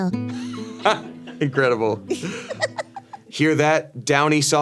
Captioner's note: laughs; Ironmouse laughs